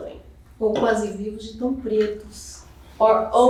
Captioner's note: speaking portuguese